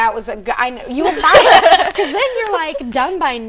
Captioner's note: laughing